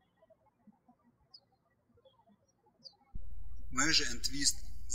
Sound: birds chirping

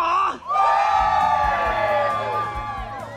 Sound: cheering

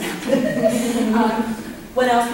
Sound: audience chuckles

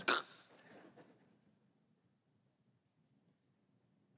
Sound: fakes snoring

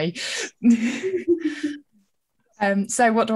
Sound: laughing

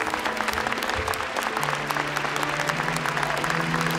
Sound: audience clapping

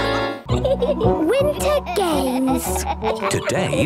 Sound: giggling

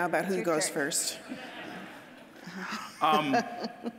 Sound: audience laughing

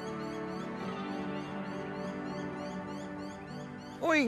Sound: birdsong; gentle music

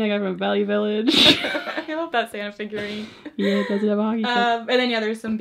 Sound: laughs

